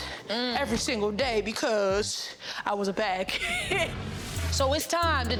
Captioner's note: laughs